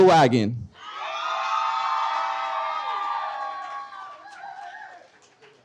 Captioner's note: audience cheers and applauds